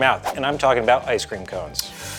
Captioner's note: graphic whooshing